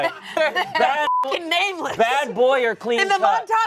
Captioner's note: beep